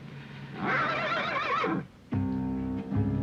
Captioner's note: horse neighing